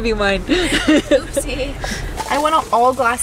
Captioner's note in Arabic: يضحكون جميعًا